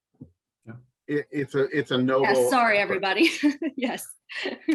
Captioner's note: chuckles